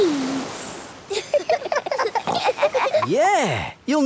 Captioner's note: giggling